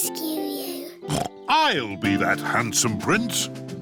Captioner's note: snorts